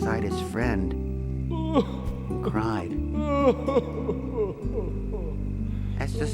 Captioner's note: sobbing